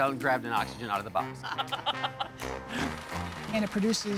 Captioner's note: laughing